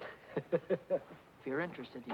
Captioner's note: happy chuckling